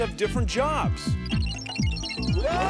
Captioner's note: beeping